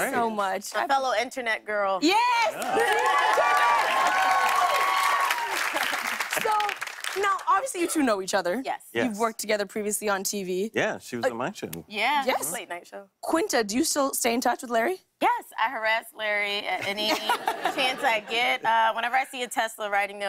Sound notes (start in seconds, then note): 2.4 cheers and applause